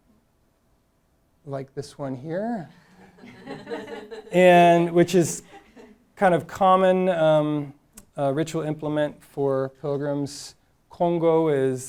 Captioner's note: audience laughing